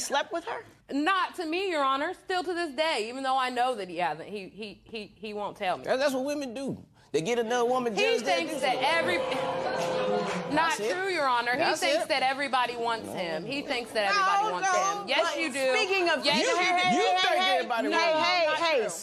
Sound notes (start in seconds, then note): 8.0 spectators murmur